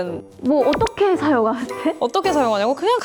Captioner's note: confused tone